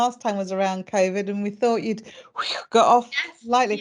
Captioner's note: whooshes